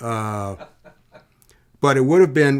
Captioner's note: laughing